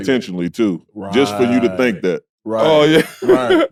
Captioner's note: laughing